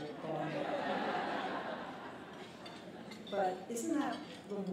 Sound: laughter

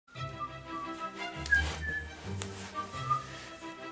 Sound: whistling along with song

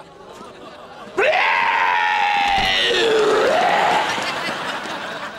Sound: screaming

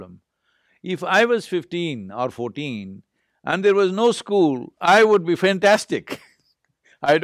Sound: laughs

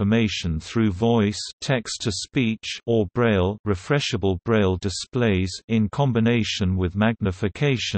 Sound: text-to-speech

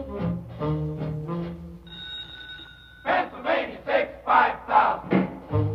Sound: telephone rings

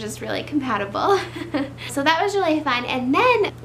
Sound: laughs

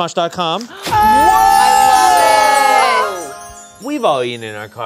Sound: everyone cheers

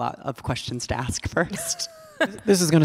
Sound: laughing

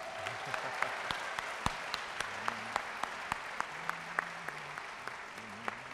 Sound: audience cheering and applauding

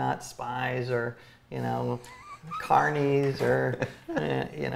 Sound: laughs

